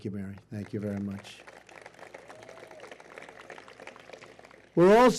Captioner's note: applause